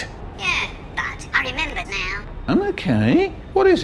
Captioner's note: through speaker